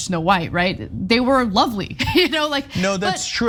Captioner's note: laugh